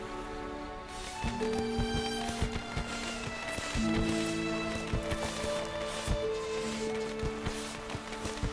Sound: fireworks exploding

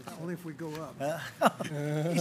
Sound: laughter

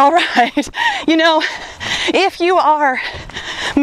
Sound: laughs

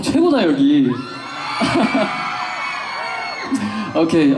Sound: cheering

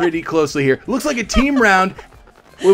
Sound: laughing

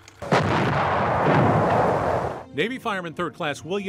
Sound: bombs exploding

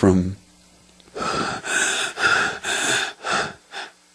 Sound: heavily breath

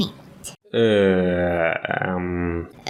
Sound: confused "Ehm..." Х2

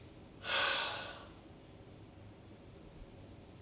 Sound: sighs

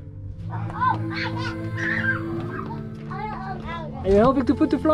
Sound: giggles

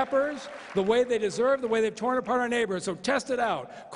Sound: applause

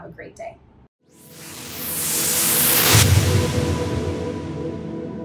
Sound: whooshing

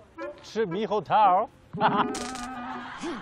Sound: hahaha

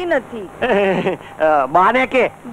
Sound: chuckles

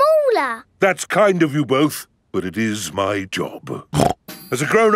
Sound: snorts

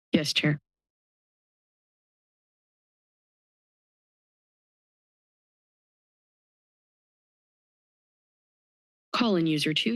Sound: silence

